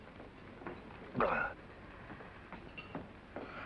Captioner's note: gasps